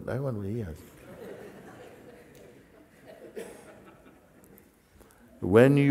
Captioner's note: Lachen